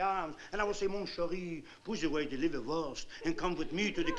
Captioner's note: french